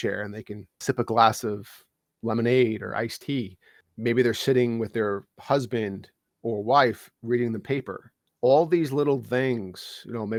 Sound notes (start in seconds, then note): none